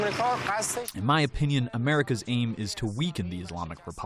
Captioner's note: through translator